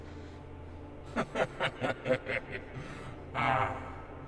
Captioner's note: leprechaun laughing